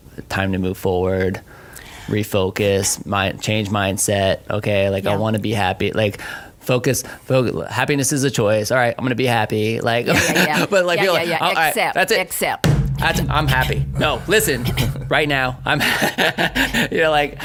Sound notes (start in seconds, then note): 10.0 laughs; 12.6 hand pounding; 15.7 laughs